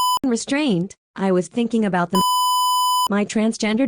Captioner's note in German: Piep